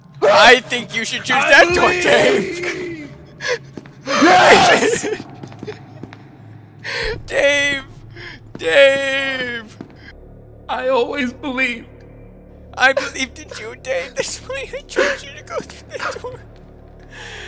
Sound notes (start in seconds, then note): 3.9 gasp of joy